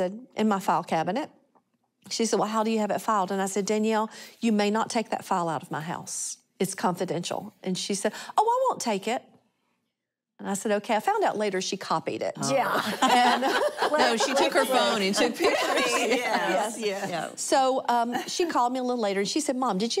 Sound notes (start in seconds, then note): 12.6 laughter